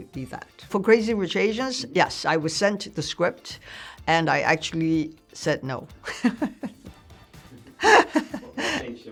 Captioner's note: laughs